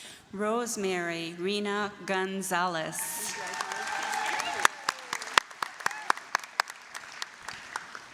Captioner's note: applause, cheering